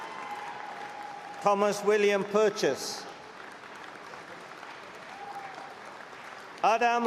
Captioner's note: applause